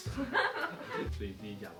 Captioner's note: laugh